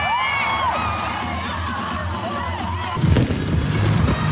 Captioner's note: spectators cheering; players chanting; fireworks bangs and pops; upbeat music